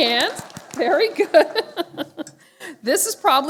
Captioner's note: laughter